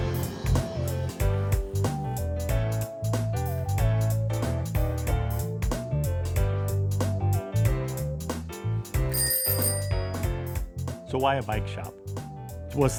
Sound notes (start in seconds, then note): 3.8 playful upbeat music; 8.9 playful upbeat music; 9.1 bell ringing